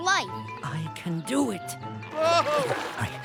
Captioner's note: cheering